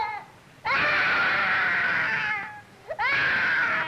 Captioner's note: crying